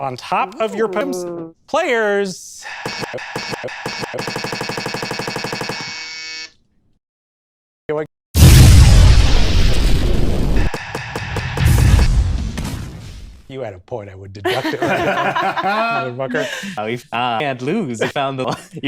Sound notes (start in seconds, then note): 2.7 presses repeatedly the buzzer; 8.3 loud laser beam sound effect; 11.6 explosion; 14.4 everyone laughs; 18.4 chuckle